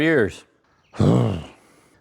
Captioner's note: exhales